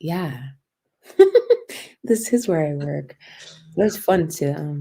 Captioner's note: laughter